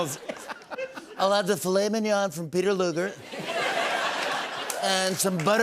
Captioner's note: as Trump